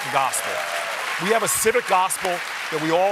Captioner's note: applause